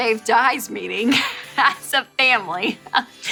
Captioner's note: giggling